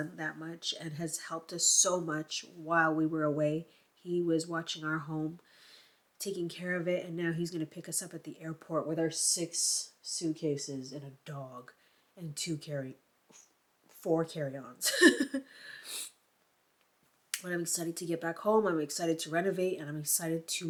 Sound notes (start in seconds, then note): 14.8 laughs